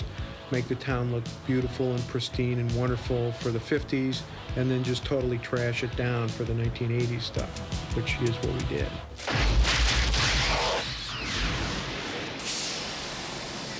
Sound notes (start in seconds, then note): 9.1 explosion; 9.1 machine whirring